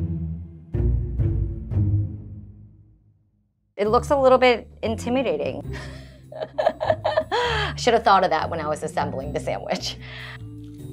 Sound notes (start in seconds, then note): 6.4 laughing